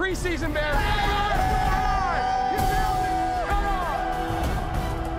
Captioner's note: cheering